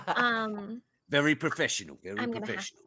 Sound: laughs

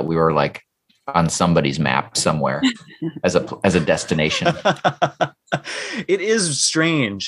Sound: laughter

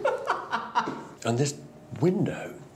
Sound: laughs

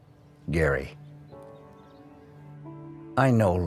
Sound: Professor Oak Voice Over

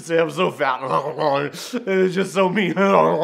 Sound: imitates munching; imitates munching; laughing

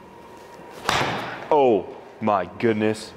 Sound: ball thuds

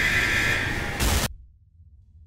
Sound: boom

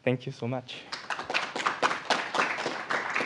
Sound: applause

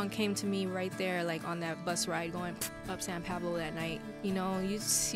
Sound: pfft

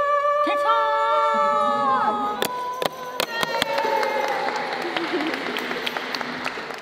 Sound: whoops and cheers

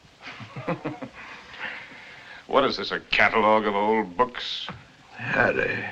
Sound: chuckles

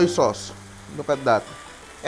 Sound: sizzling sound

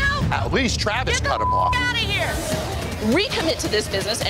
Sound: beep

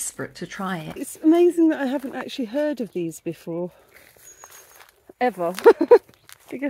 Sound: laughing

